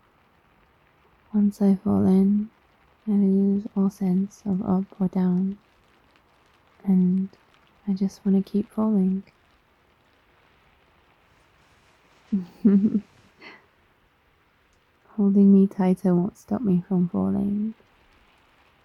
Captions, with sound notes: once I fall in.. I lose all sense of up or down and I just wanna keep falling *squishes* *laughs* holding me tighter won't stop me from falling